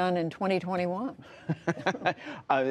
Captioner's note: laughter